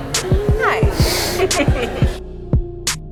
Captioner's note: chuckling; calm music